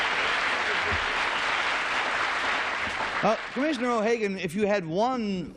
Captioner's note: applause